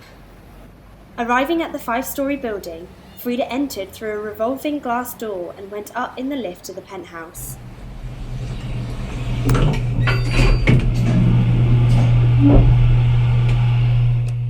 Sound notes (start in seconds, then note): 7.5 elevator doors closing